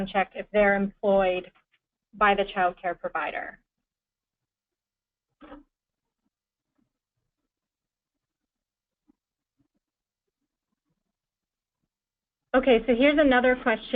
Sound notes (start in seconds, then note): 8.0 pause